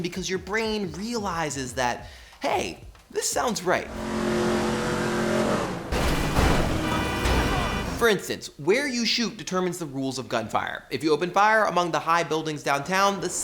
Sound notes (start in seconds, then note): 3.8 engine revving; 5.8 banging